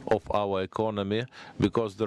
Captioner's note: speaking in foreign language